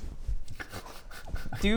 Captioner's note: very nervous giggles